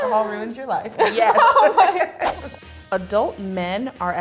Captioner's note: both laugh